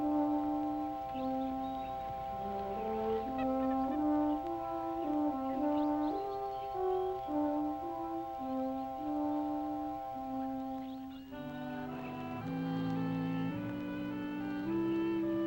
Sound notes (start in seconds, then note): 0.5 birds chirping; 0.5 gentle music